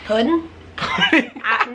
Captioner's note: laughing